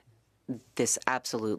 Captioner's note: speaking French